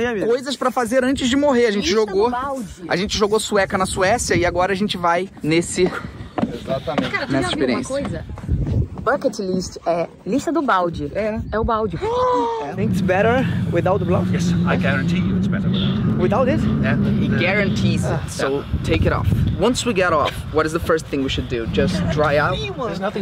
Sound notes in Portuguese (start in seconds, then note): 12.0 faz som de surpresa